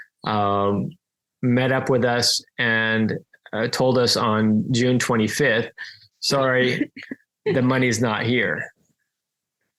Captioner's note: laughs